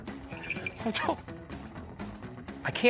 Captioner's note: guffawing